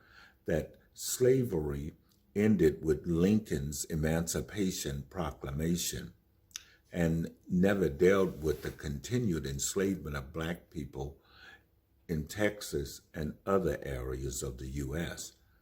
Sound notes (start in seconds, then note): none